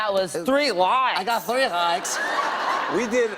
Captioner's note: laughter